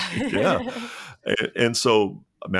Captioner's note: laughs